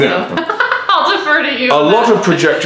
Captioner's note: laughter